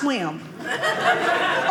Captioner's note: audience laughing